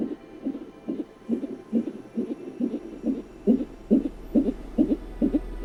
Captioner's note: heart beating on ultrasound